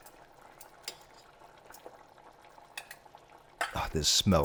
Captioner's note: sauce simmers